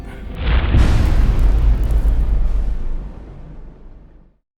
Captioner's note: impact